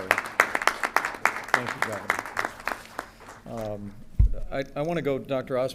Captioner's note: applause